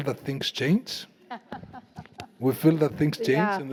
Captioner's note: laughing